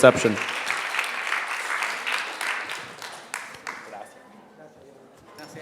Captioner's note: people clapping